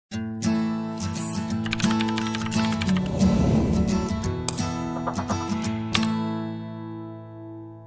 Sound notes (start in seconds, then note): 0.4 light music; 1.7 keys clacking; 2.8 arrow whooshing